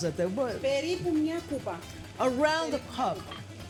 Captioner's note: speaking greek